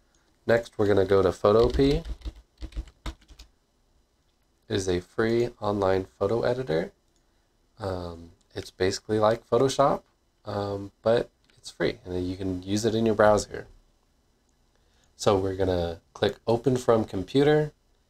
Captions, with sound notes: Next, were gonna go to "Photopea" *typing noises* It is a free, online photo editor It's basically like Photoshop um, but it's free! You can use it in your browser. So, were click "Open from Computer"